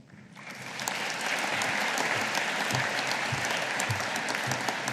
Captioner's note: audience applauding